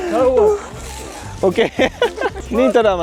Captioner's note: laugh